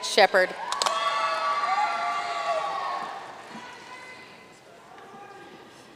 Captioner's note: audience cheering and applauding